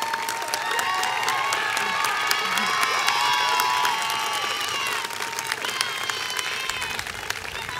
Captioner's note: applause continues